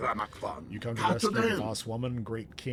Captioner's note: speaking foreign language